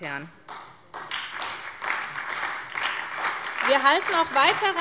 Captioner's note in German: Beifall bei der SPD